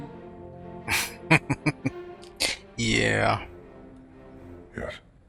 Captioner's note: chuckling